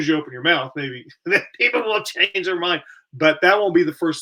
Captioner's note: laughter